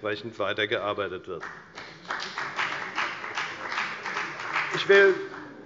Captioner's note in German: Beifall bei der FDP